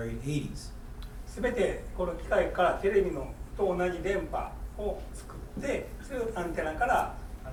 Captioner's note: speaking in foreign language